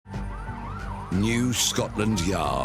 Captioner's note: siren wailing